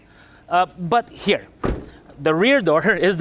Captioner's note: door closes